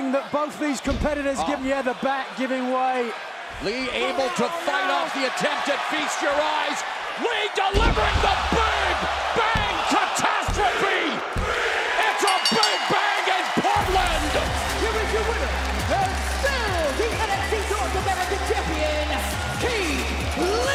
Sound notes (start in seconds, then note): 11.5 crowd cheering; 12.1 bell ringing